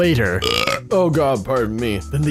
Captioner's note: belch